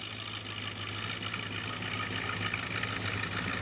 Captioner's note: engine revving